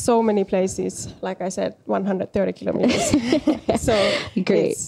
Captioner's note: naurua